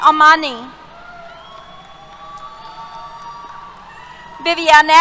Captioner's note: cheers